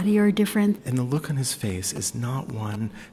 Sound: voiceover

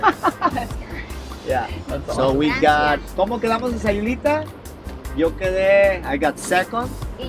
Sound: foreign language 00:16:02

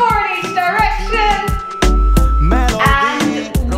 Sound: workout timer beeping

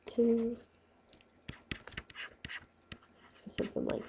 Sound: scribbling

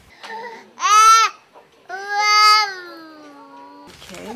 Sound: baby talking

